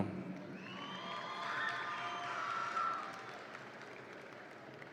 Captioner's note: audience applauds and cheers